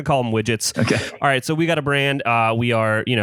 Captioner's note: laughs